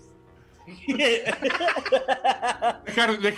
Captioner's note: laughing